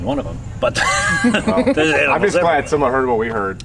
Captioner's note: laughing